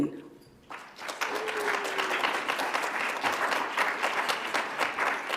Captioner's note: audience applauds